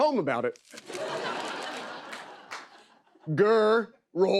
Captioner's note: laughter